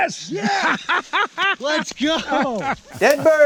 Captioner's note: laughing